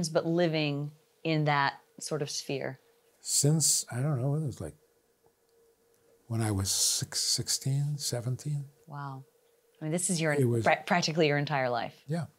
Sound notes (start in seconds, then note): none